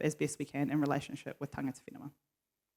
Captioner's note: foreign language